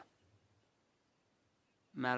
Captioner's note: speaking in French